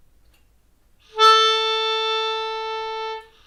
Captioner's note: the sound of a post horn